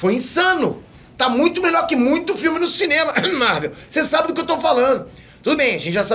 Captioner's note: cough cough